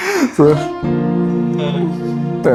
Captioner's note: laughter